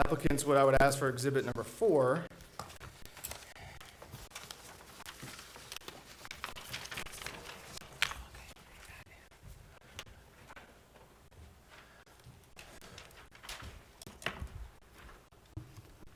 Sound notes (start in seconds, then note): 4.3 board chatting quietly; 4.3 papers rustling